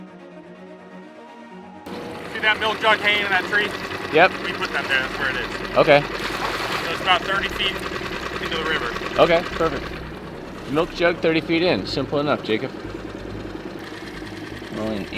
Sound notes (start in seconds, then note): 1.9 outboard engine running; 6.3 water splashing; 13.2 engine idling